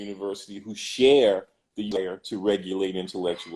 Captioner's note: glitch